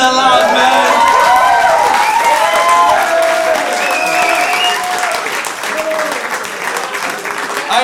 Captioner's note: audience cheers